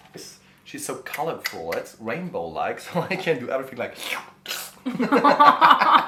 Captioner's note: slurp